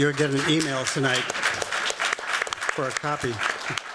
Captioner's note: applause